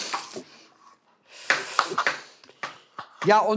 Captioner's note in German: Klappernde Geräusche